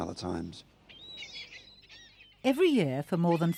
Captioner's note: birds cawing